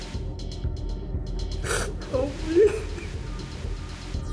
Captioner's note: sniffles, sobs